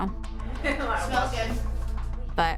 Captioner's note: woman chuckles